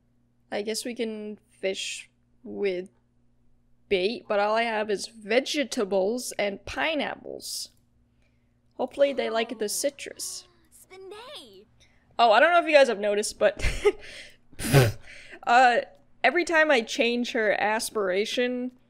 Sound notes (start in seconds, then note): 13.8 laughs